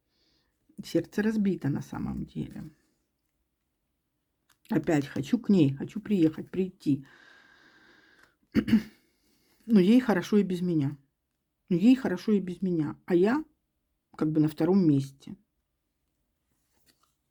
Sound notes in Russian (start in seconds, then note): 8.5 кашель; 8.5 откашливается